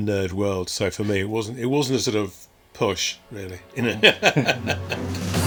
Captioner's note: laughs